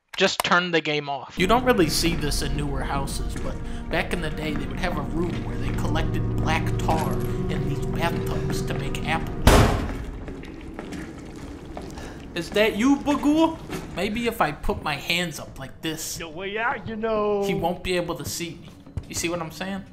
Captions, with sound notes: Just turn the game off. You don't really see this in newer houses, but.. Back in the day, they would have a room where they collected... ...black tar. In the bathtubs! To make ap-- *SLAM* Is that you, Baghoul? Maybe if I put my hands up, like this... "There's no way out, you know!" He won't be able to see me. You see what I'm saying?